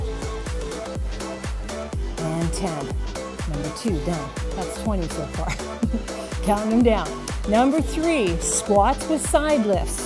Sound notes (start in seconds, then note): 5.4 giggles